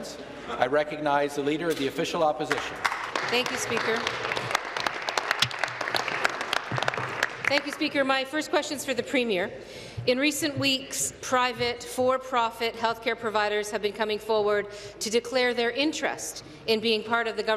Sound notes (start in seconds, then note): 5.9 applause